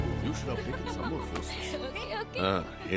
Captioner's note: Laughs